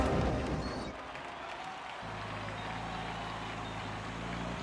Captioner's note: cheering